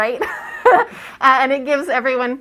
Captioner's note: laugh